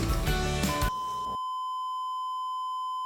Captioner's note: beeeeeeep